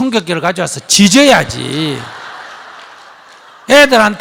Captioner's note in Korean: 청중 웃음